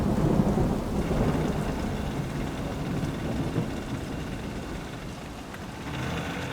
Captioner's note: thunder rumbling; engine rumbling; rain pouring